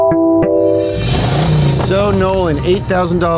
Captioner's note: car engine revving